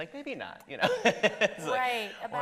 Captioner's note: laughs